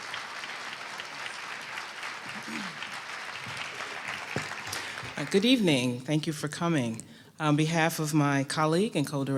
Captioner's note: applause